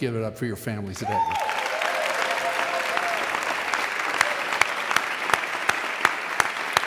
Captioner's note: audience cheering and applauding